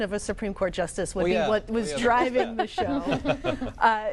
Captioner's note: laughter